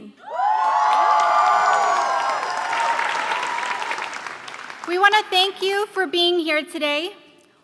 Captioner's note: applause